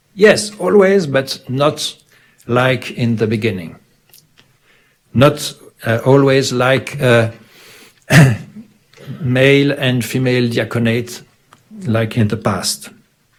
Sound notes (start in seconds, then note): 8.0 clears throat